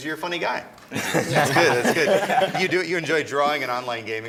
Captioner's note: laughter